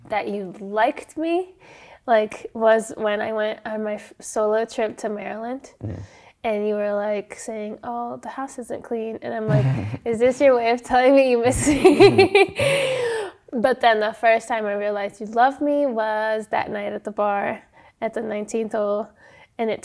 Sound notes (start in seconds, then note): 11.6 laughs